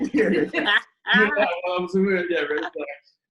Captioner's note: laughs